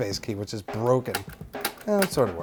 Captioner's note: clicking